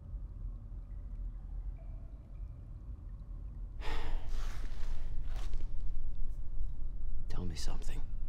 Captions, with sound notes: [sighs] Tell me something.